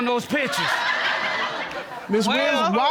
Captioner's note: audience laughing